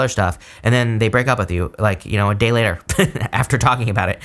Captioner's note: chuckles